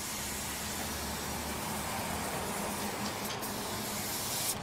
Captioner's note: traffic rushing, spray noise